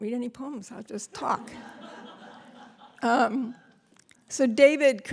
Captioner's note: laughter